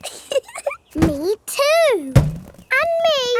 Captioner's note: chuckles